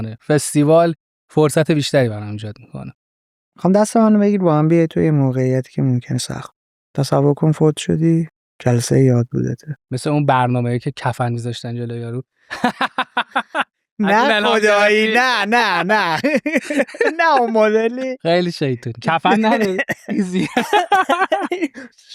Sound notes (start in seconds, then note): 10.0 laughing; 19.1 laughing; 19.1 laughs